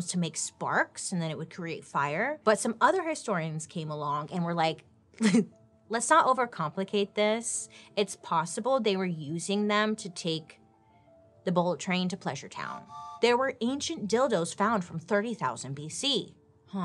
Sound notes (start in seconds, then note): 5.3 chuckles; 12.7 train whistle toots